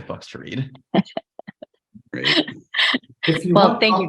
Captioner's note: chuckles